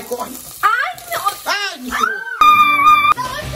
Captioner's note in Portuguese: Gritaria